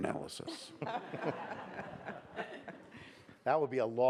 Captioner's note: audience laughs